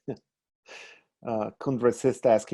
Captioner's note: laughing